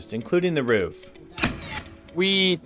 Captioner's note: sound of a nail gun